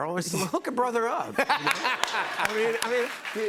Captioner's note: laughs